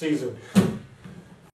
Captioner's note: hands tapping